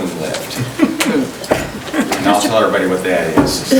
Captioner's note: chuckling